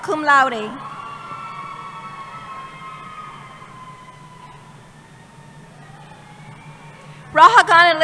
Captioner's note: cheering